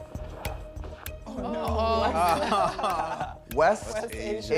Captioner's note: all exclaiming